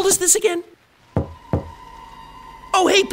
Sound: knock

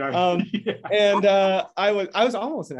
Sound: laughing

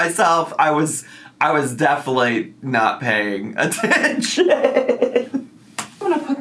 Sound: laughing

